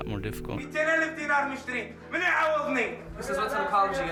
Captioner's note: speaking in foreign language